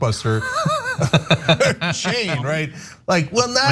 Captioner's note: laugh